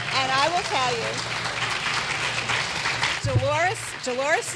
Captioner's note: clapping